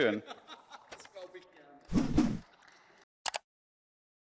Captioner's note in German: Gelächter